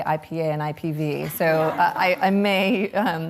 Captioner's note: audience laughs